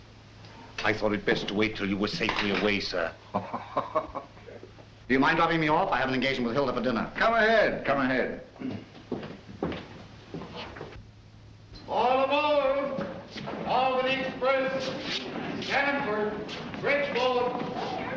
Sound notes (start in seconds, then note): 3.3 laughing; 11.5 man over PA